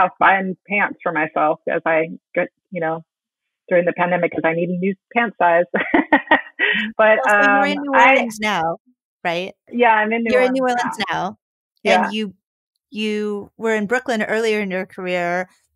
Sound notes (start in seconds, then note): 5.8 laughing